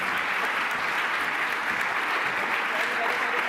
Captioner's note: applause